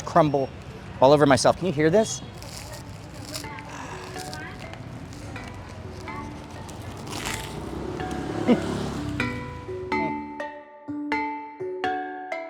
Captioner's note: crunching sound